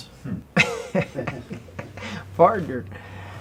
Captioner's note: both laugh